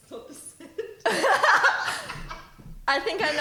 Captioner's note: laughing